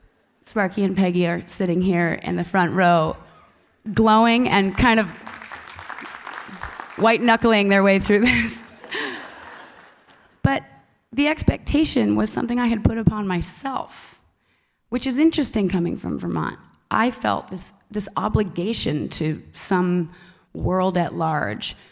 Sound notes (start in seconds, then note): 4.2 applause